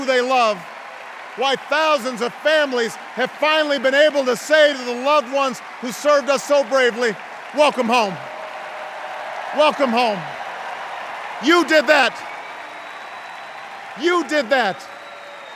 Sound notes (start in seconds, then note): 8.6 extended cheers and applause